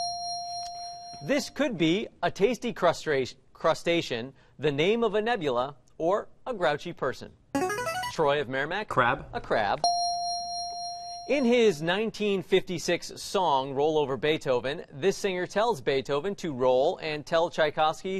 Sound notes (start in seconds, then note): 0.0 ding; 6.9 buzzer plays; 9.8 ding